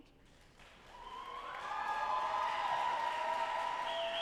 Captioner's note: audience applauding